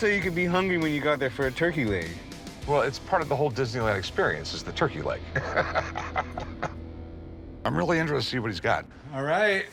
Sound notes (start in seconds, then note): 5.2 laughs